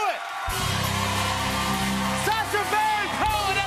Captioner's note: cheers and applause